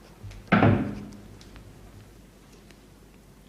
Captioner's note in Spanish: La puerta se abre